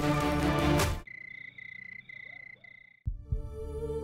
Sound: crickets chirping

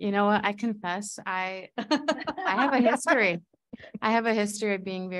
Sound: audience laughing

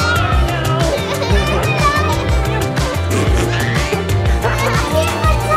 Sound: laugh

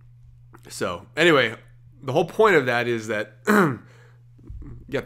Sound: clears throat

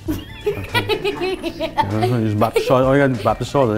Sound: laughs

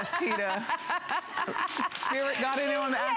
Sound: laughter

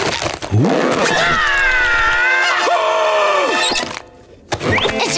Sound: screaming

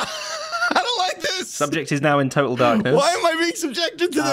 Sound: normal voice

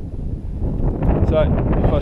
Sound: wind blowing

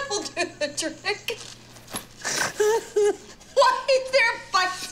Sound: laughing

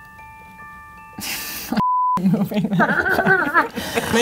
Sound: beep; all laughing

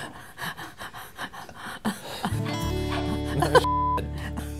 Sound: panting; beep

